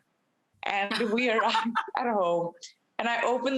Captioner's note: Rachael laughs